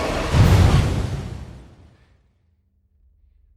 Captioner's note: thud